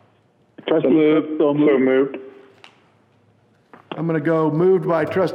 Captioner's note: men calling out